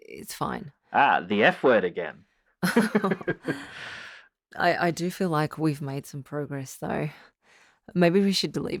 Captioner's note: laughs